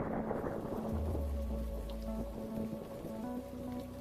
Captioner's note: thunder, sound of rain